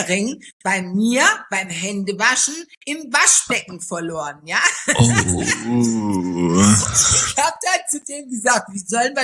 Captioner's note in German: gelächter